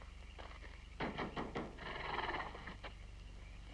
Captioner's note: knocks